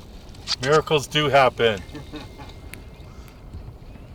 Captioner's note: laughing